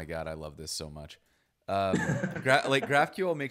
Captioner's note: laughs